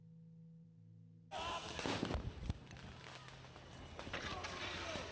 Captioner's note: foreboding music; police chatter